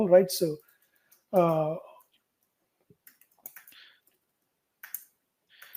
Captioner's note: computer keys clicking